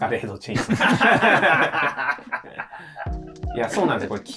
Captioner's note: laughing